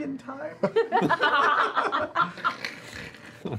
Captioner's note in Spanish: risas